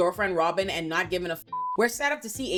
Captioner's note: beep